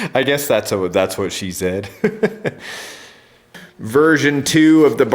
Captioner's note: laughs; laughs